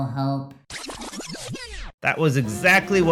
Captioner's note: record scratches